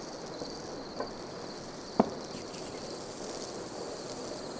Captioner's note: crickets chirping